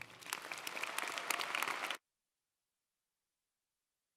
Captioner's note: audience applauding